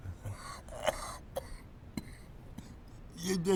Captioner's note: coughing